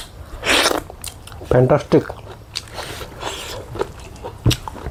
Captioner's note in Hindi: नाक से की जाने वाली आवाज़